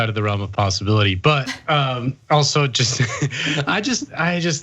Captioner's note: laugh